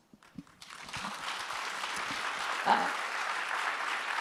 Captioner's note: audience applauds